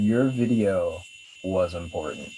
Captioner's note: none